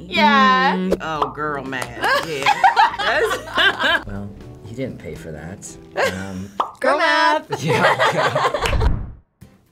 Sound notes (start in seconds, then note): 0.8 bubble pops; 1.7 claps; 2.0 laughs; 6.5 bubble pops